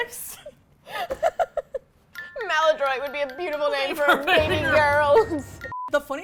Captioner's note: laughter